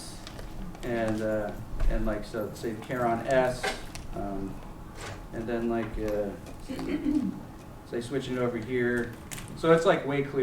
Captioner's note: non-english